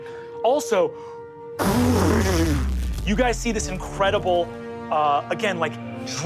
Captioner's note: mimics rumbling